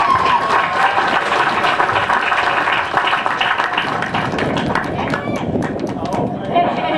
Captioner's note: applause